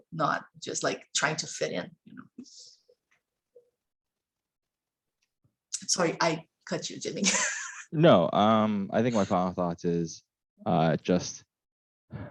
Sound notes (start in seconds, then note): 7.2 laughs